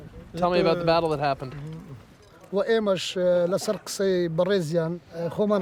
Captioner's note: speaking foreign language